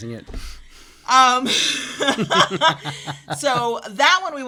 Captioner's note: both laugh